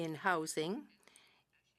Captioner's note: speaking french